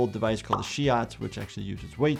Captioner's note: device popping